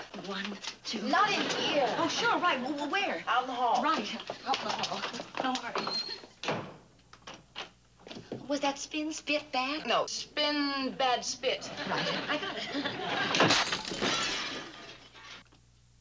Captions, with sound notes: -One, two-- -Not in here! Oh, sure, right, w-where? -Out in the hall. -Right. Out in the hall, don't worry. Was that spin, spit, bad? No, spin, bad, spit. Right. I got it. (laughs) (glass breaking)